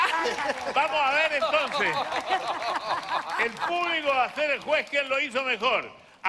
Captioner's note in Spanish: aplausos